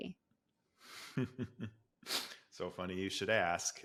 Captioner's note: laughs